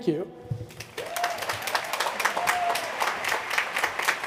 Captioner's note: applause